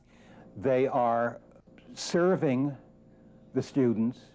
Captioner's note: none